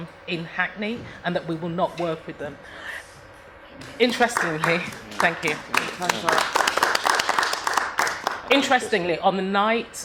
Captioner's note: applause